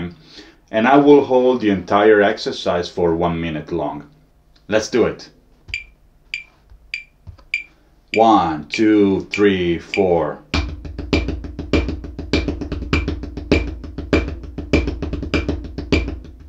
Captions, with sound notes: and I will hold the entire exercise for one minute long. Let's do it. (metronome ticking) One, two, three, four. (drum beating) (metronome ticking continues)